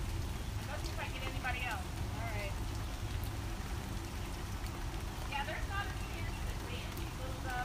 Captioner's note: rain